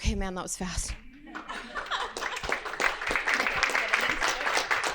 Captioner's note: audience clapping